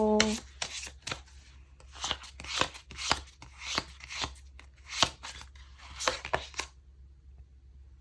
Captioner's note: drawing cards